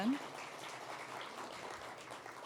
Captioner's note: applause